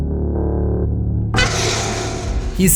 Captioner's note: Art honks his horn in Sienna’s ear